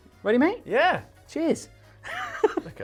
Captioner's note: laughs